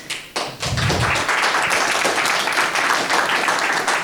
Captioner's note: crowd applauding